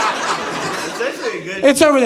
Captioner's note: audience laughing